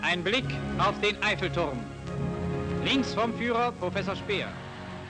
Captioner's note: speaking foreign language